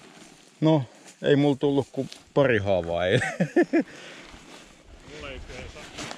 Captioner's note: unconvincing laughter